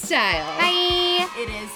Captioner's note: crowd cheering